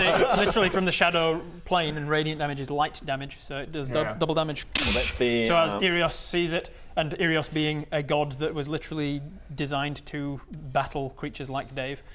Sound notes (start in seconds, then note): 4.8 dssch